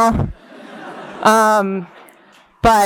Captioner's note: laughter